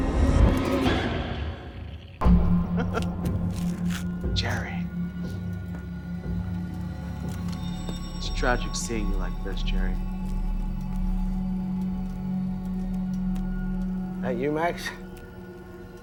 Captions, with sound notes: (dramatic music) (laughs) Jerry. It's tragic seeing you like this, Jerry. - That you, Max?